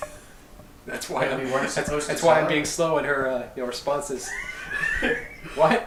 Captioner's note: chatter